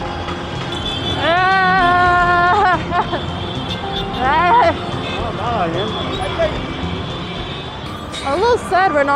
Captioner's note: distressed noises